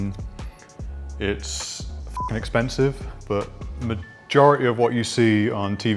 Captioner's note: beep